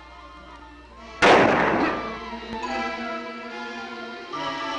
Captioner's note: gunshot fires; dramatic music